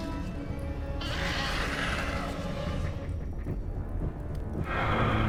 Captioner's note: dinosaur growling; dramatic music